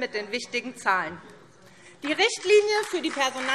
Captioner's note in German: Beifall SPD